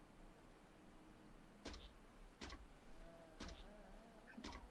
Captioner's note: zapping sounds